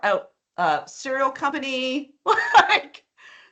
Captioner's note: laughing